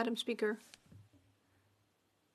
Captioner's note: speaking French